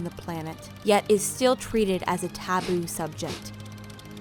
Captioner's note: sniffles